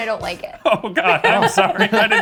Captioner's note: all laughing